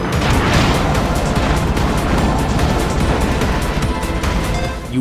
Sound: game audio

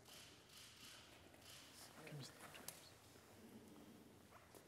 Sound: whispering

